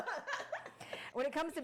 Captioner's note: laughing